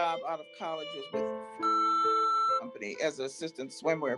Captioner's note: beep